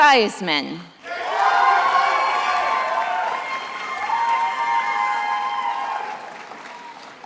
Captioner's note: attendees applauding and cheering